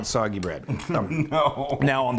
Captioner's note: laughs